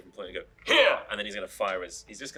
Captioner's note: imitating Guard